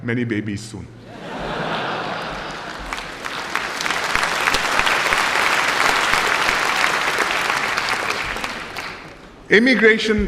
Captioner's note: laughter and applause